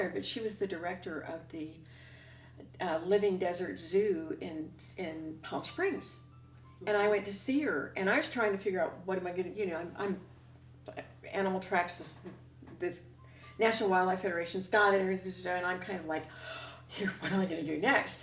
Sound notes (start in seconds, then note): 14.5 speaks rapidly